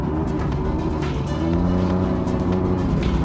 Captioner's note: engine roars